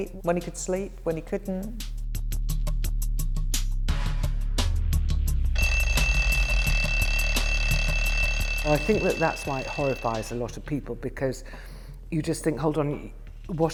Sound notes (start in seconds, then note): 5.5 alarm rings